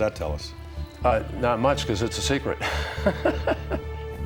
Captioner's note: laughs